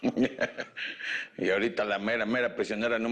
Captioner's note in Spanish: Risas